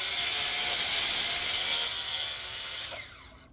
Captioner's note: machine grinding